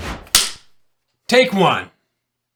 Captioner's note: clapperboard clicking